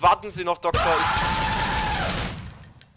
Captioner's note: loud, surprising screaming; hectic-fast glock 17 shot